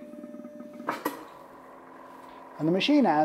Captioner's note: machine whirring; mechanism clacking